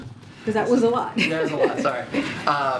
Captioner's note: laughs